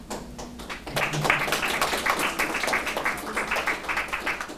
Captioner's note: applause